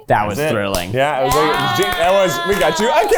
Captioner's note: everyone applauds